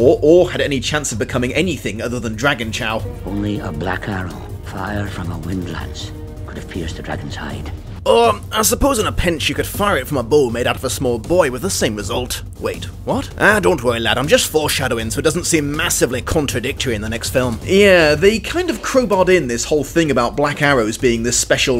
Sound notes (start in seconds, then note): 7.9 with Scottish accent